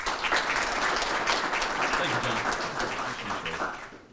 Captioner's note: audience applauding